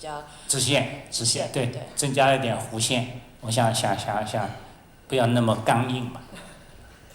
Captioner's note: Mandarin